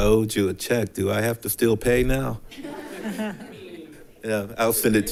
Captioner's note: attendees chuckle